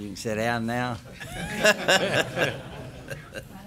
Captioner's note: laughter